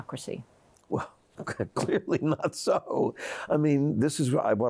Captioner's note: laughs